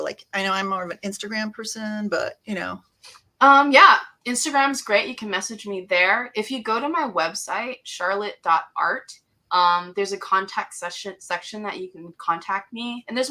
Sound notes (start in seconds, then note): none